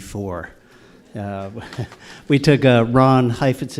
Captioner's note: audience laughter